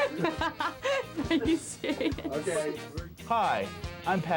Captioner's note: laughs